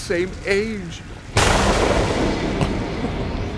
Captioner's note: thunder